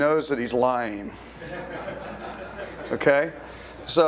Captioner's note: audience laughter